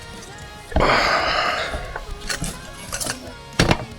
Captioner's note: sighs